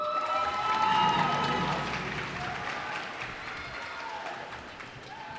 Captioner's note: cheers and applause